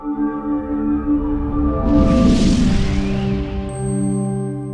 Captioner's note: whooshing, metallic tinkling